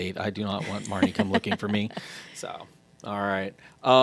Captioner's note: laughing